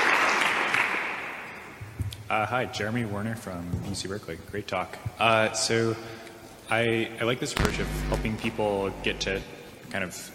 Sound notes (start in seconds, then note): 7.6 mike feedback noise